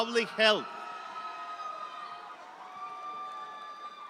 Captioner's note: audience cheering